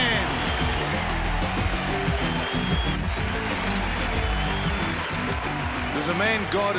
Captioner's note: applause & cheers